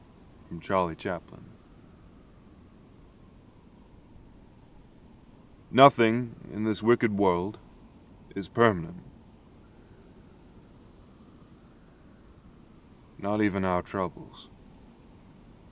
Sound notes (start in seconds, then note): none